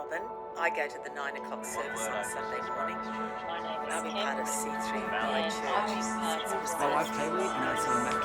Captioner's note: voices of the church community